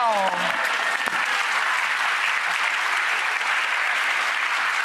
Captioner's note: audience applauding